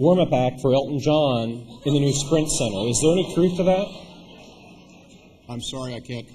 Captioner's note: laughter